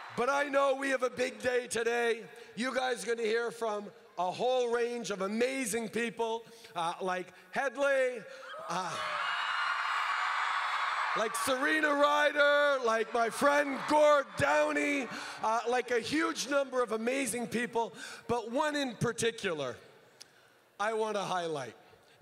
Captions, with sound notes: But I know we have a big day today. You guys are going to hear from a whole range of amazing people like Hedley… (Crowd cheers) … like Serena Ryder, like my friend Gord Downie, like a huge number of amazing people. But one in particular I want to highlight.